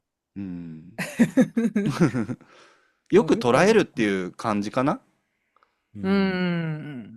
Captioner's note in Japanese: 笑い